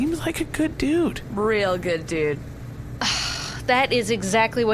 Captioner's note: sighs